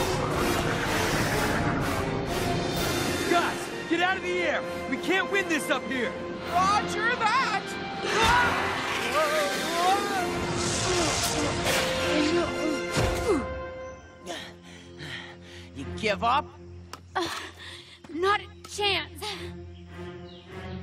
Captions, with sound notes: Guys. Get out of the air. We can't win this up here. Roger that. (Grunting) (Panting) You give up? Not a chance.